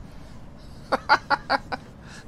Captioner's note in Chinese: 大笑